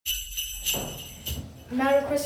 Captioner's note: bells chiming